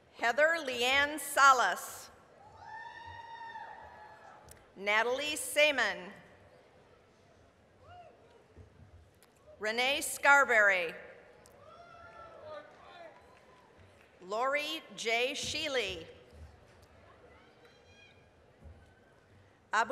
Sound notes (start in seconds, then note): 2.7 applause, cheering; 7.9 applause; 12.1 applause; 18.0 applause